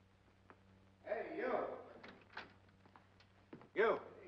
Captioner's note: door opens